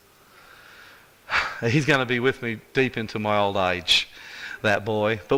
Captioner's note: sigh